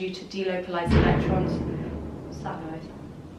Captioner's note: thud